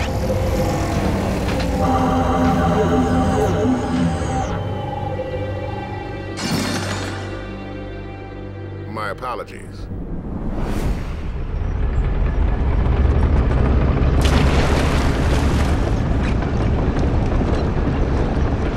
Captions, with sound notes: (medal clanking) My apologies. (ground trembling) (water slashing)